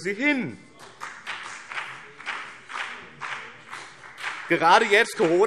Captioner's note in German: Beifall BÜNDNIS 90/DIE GRÜNEN